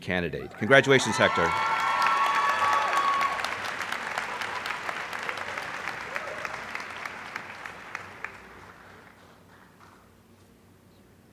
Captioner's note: applause